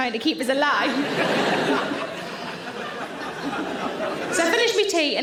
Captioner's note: audience laughing